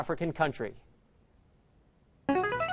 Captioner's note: answer bell